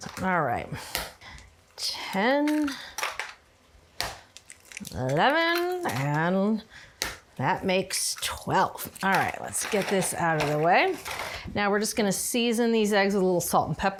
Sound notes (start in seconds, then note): 2.4 egg cracks